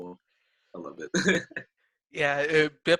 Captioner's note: laughing